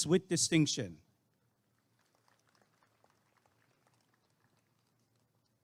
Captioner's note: applause and cheering